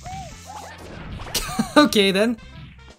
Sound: laughing

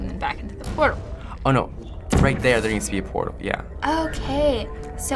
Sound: sudden gasp

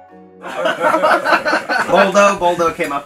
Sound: laughter

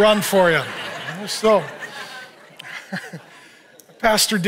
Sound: congregation laughs

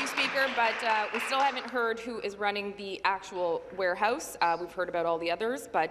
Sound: some Applause

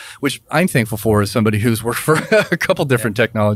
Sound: laughs

